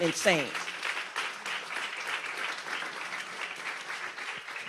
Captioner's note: audience applauds